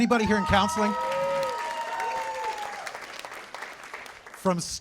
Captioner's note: cheers and applause